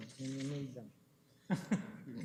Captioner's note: chuckles